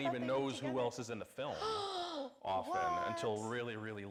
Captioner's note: gasps